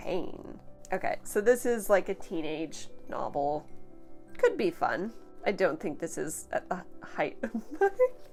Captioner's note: giggles